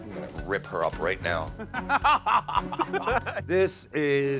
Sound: laughs

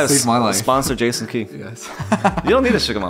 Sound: laughs

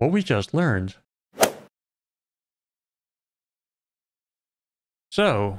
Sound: golf ball hit sound

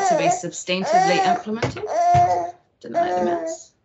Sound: toy thuds

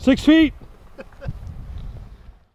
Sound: laughter

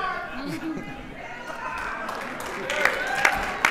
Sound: applause

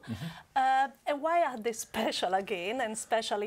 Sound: laugh

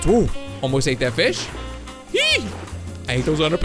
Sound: squeals

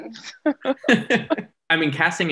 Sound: Jodie and Cameron giggling

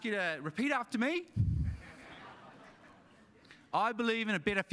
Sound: audience laughing

